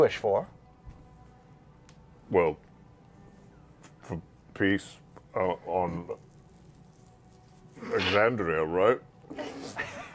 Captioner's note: haltingly